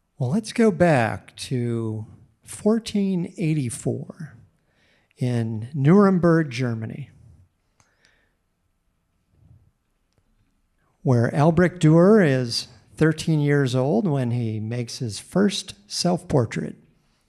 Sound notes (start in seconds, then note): none